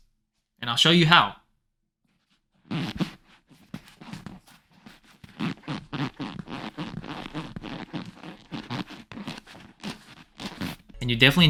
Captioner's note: fart fart fart